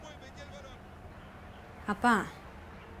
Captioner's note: tv chatter